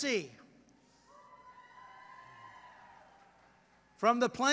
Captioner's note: applause